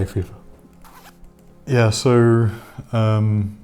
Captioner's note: squeaky zipping